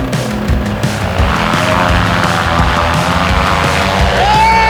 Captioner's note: engine running